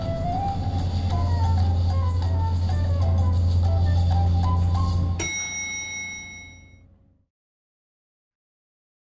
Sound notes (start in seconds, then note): 5.2 bell dings